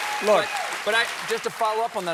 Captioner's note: applause